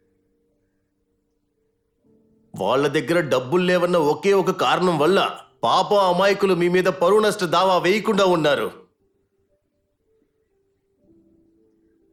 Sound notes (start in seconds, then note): none